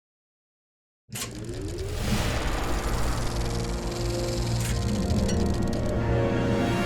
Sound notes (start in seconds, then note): 1.2 film projector spinning